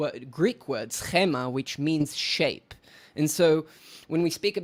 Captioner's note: speaking foreign language